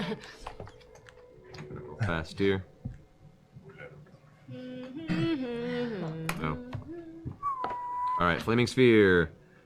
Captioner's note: hums the Jeopardy theme